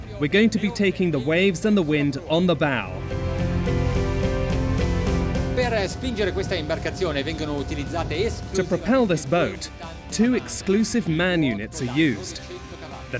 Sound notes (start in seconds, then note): 2.7 inspiring orchestral music; 6.0 speaking in foreign language